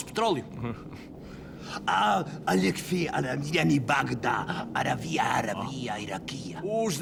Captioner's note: pseudo-Arabic gibberish